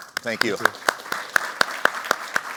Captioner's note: applause